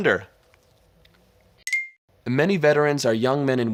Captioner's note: wink chimes